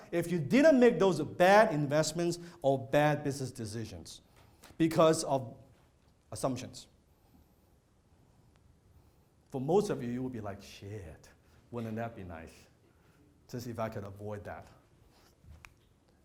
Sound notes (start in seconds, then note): none